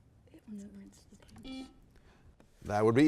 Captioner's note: buzzer beeps